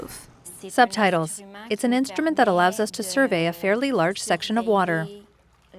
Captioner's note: speaking in a foreign language